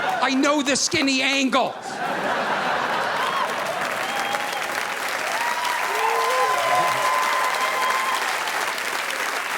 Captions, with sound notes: I know the skinny angle. (audience laughing) (audience applauding)